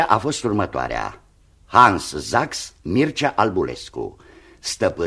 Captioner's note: none